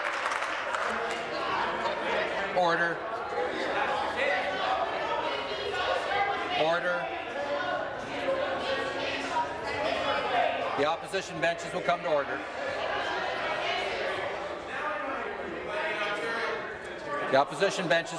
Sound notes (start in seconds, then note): 6.8 conversation din